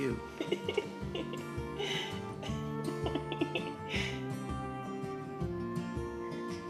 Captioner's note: soft music; laughing